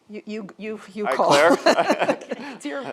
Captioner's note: laughs